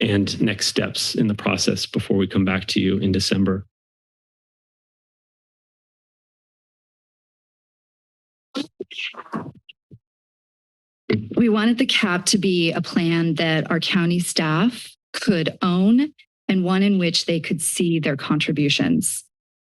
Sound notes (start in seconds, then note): 4.2 silence; 11.1 mic thump; 19.4 silence